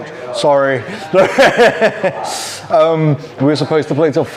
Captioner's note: laughs